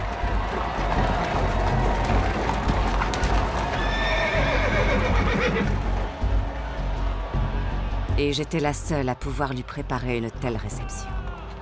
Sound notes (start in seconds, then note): 0.0 horse hooves clattering; 3.8 horse whinnying